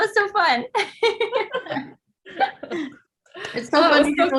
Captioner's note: group laughing